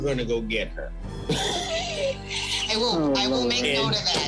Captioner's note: laughter